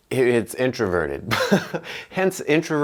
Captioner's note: laughing